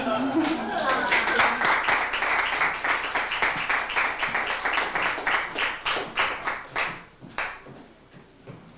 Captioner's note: applause